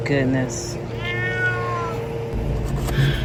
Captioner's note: meow